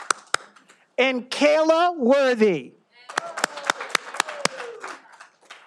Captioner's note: all applauding; all applauding